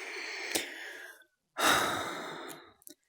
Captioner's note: sigh